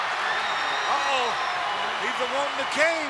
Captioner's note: crowd screaming; crowd yelling